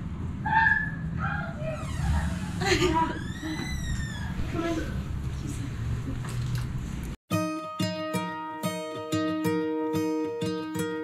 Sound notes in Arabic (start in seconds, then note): 2.9 يضحك; 7.6 موسيقى ملهمة